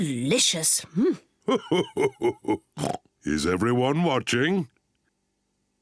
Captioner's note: laughing